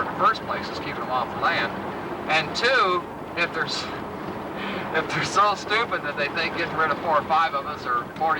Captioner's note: laughs